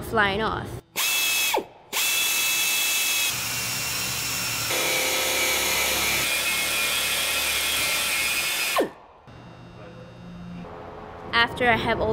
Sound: drilling sound

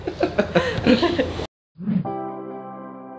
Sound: both laugh

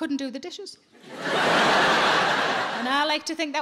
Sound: audience laughing

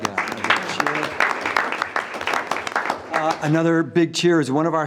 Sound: everyone applauds

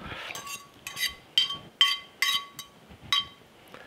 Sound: fork scraping

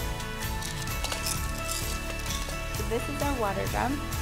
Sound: instruments rattling

